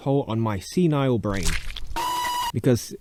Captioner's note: squelch